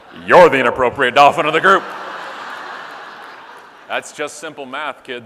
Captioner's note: audience laughing